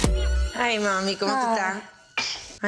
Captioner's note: exciting music continues; speaks foreign language